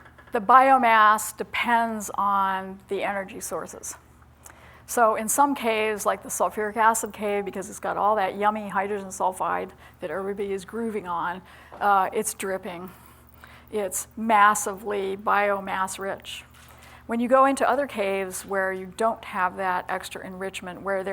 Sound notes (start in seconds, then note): none